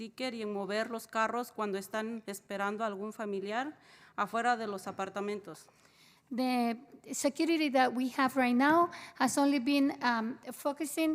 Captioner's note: spanish